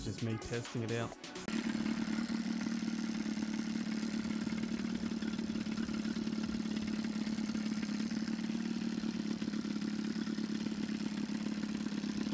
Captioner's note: engine noise and testing